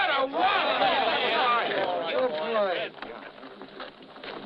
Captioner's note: overlapping chattering